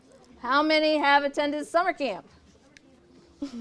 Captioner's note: laughing